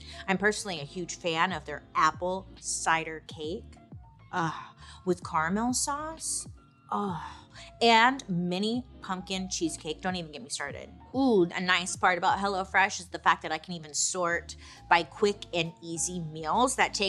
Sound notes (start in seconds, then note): 4.4 swoons